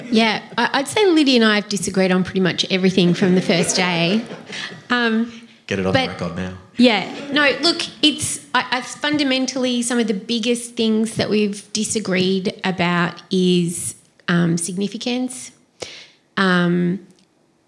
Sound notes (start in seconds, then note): 3.0 laughter